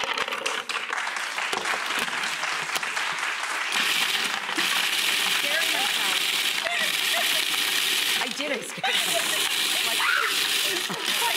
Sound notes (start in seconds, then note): 0.0 audience applauding; 3.9 food processor whirring